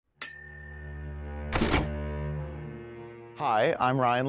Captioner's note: typewriter dings